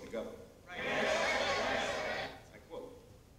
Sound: crowd

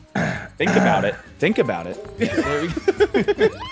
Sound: cough; laugh

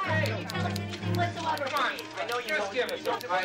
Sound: indistinct chatter

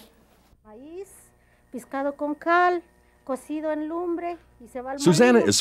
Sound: speaking spanish

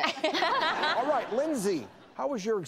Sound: laughs

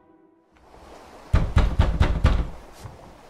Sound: heavy knocking

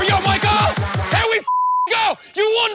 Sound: beep

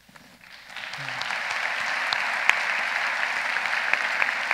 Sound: audience applauding

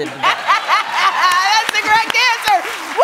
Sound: laughs

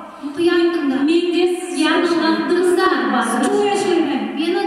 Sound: speaking Kazakh

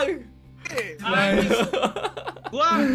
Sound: laugh

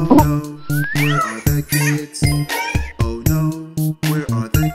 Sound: child yelling

